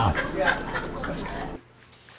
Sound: laughing

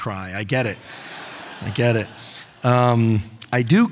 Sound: audience laughing

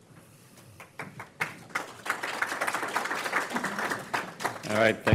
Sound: all clapping loudly

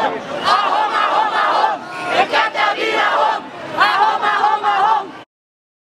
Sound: chants

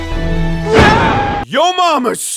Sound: intense music; screams

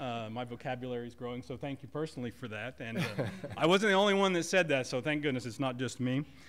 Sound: laughter

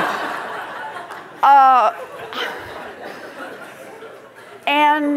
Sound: laughter

